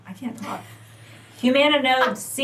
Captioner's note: laughs